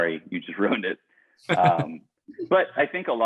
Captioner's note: laughing loudly